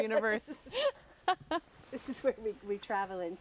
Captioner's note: laughter